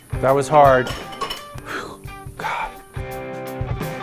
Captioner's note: upbeat country rock music; exhales; upbeat country rock music